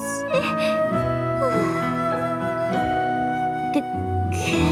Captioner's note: sigh